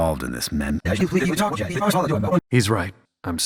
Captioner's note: Yuyanese